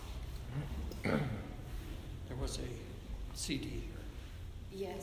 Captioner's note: clears throat